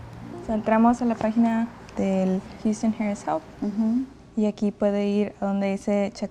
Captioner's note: Spanish